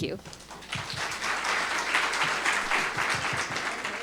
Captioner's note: audience clapping